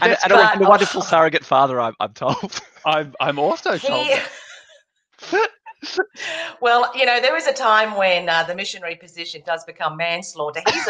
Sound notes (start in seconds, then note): 4.1 all laughing